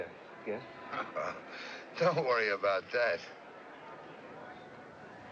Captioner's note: chuckles